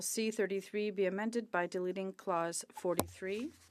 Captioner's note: speaking French